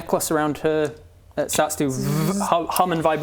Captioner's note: vrrr